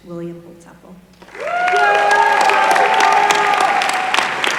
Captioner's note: applause